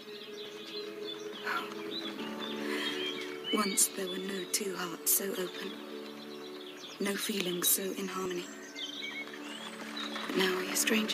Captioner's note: sigh